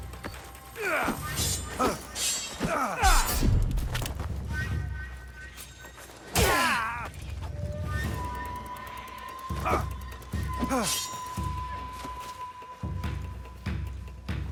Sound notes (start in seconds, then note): 1.2 swords clanging; 8.1 dramatic music